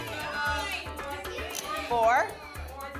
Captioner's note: audience shouting numbers